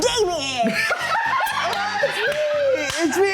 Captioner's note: everyone laughs